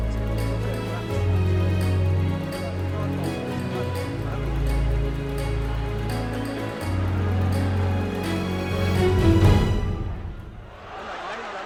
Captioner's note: crowd cheers